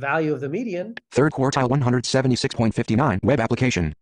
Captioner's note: voiceover